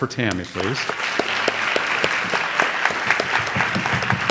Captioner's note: audience applauds